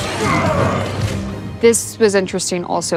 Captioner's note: Vecna yelling